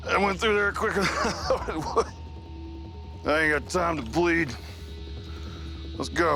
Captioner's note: laughs